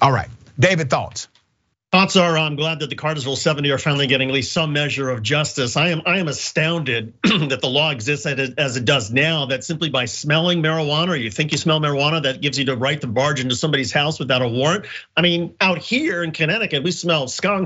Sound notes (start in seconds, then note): 7.2 cough